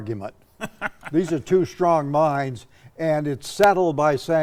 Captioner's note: laughing